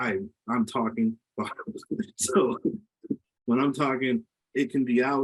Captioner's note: laughs